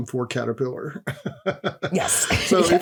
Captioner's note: laughs